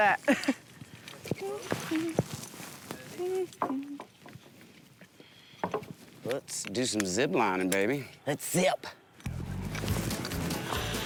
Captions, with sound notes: >> HOW'S THAT? (HUMMING) >> LET'S DO SOME ZIPLINING, BABY. LET'S ZIP!